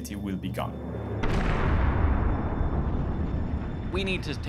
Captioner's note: loud explosion